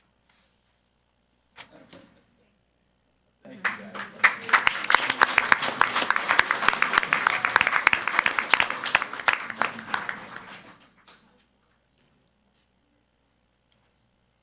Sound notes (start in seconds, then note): 3.6 crowd clapping